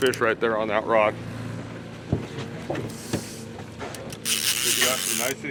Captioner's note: reel cranking